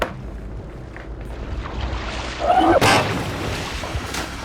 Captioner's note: water splashes